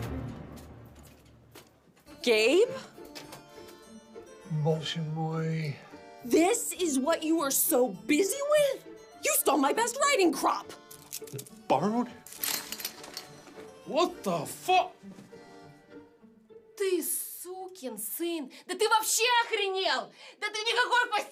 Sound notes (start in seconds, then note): 4.9 Boris speaking in Russian; 12.4 metal clanking; 16.8 Veronika speaks in Russian